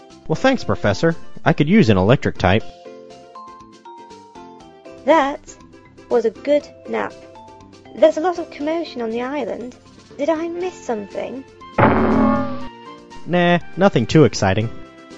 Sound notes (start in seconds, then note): none